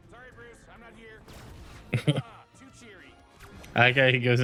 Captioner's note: laughs; upbeat music